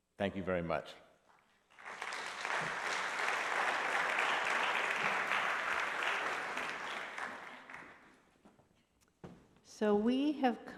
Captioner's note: applause